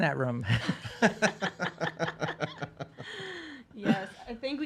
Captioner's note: all laughing